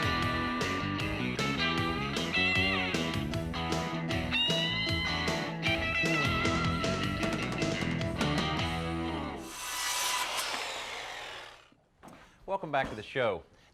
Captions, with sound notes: (upbeat guitar music) (upbeat guitar music) (upbeat guitar music) (drilling) - Welcome back to the show.